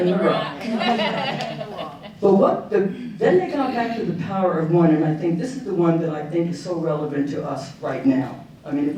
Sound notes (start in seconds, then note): 0.4 audience laughing